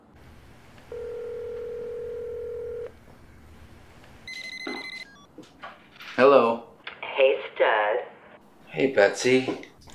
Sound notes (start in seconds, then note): 1.4 ringing